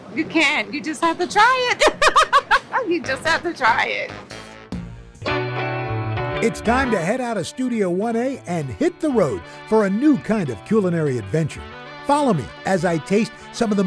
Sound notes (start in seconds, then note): 1.7 laughs